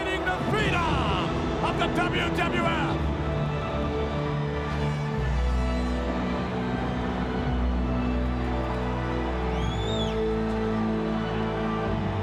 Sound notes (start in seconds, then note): 3.3 crowd chattering; 3.3 dramatic music